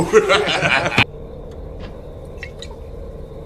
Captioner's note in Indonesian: tertawa